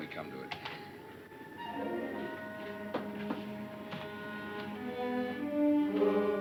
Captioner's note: light suspenseful music; window clacking